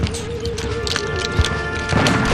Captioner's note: guns clicking; guns banging